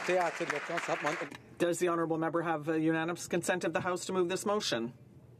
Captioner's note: some Applause